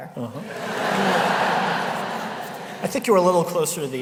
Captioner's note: laughter